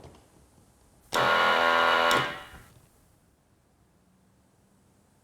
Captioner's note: machine blaring